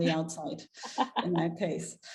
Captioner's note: laughing